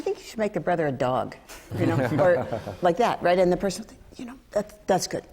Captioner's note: laughter